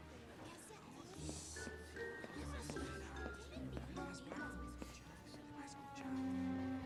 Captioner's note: whispers